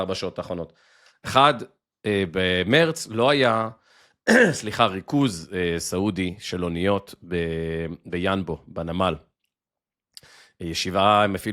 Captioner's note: clears throat